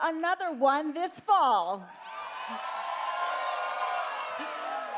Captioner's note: cheers